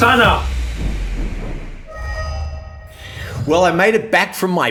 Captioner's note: whooshing